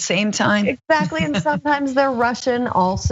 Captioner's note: laugh